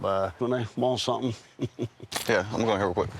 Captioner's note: chuckles